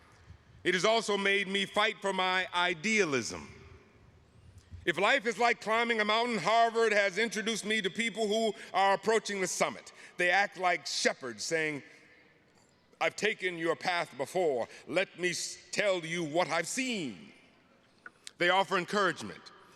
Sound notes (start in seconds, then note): none